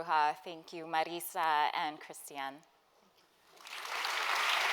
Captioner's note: applause